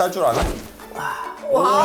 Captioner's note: whirl